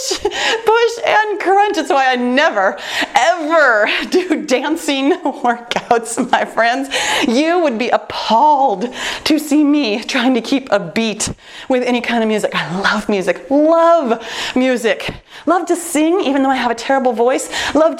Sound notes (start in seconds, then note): 5.0 laughs